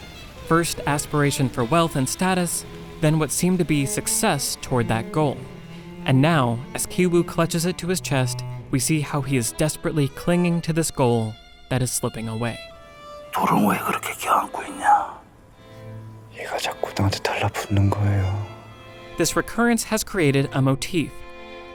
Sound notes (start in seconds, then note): 13.3 speaking foreign language